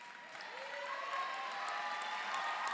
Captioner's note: applause